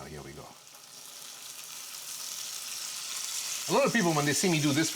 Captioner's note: water sizzles in pan